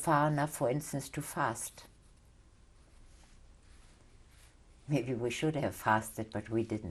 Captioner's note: pauses for 3 seconds